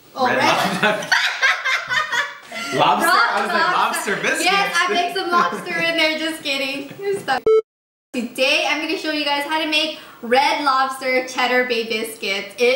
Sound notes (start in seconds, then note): 0.4 laughter; 7.4 beep